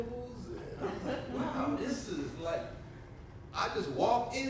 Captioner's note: audience laughs